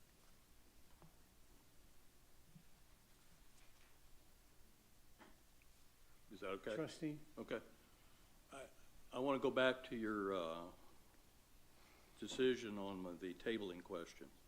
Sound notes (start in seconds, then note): none